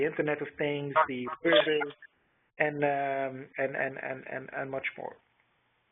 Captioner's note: computer drowns out speaker